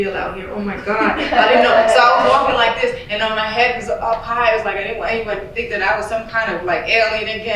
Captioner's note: laughter